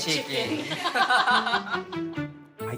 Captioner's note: laughs